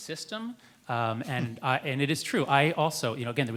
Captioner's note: chuckles